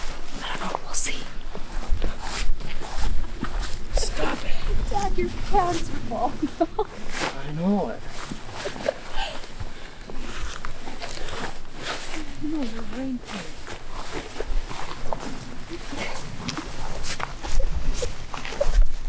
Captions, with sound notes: I don’t know, we’ll see. (laughing) Stop it! Dad your pants are fallin off. I know it. (laughing) They’re your rain pants. (laughing)